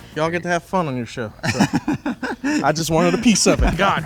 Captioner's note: laughing